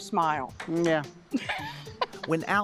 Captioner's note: laughs